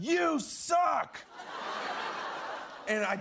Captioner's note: laughter